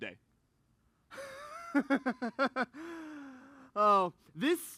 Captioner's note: laughs